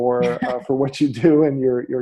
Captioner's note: laughs